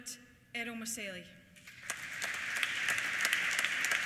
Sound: applause

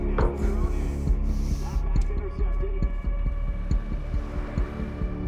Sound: none

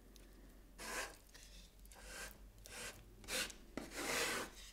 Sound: spatula scratching

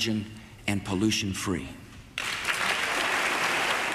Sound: applause

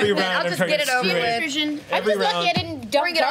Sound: overlapping chatter

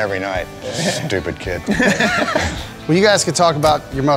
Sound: laughing; laughter

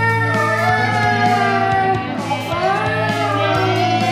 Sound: children's voices screaming; music - Main theme

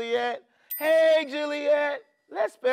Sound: bell chimes

